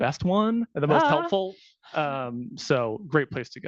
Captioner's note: laughing